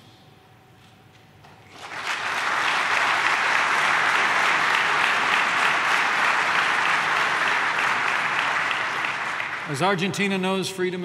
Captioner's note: applause